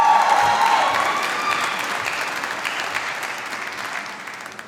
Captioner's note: applause